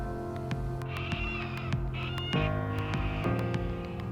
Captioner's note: birds squawk